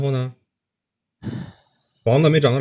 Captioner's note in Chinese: 大哭